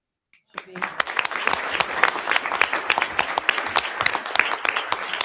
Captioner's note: audience applauding